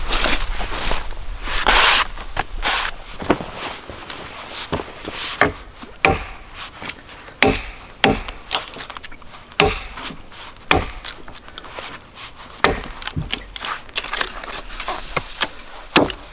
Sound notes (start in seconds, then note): 4.7 adze thudding